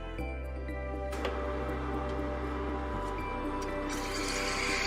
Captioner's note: machine whirring